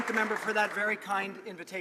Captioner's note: some Applause